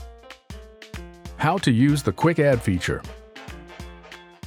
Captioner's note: upbeat music; voiceover